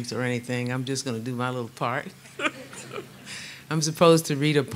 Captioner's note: laughs